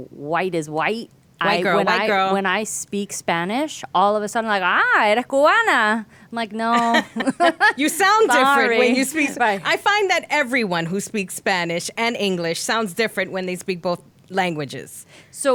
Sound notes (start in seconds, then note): 4.5 speaks Spanish; 6.7 laughing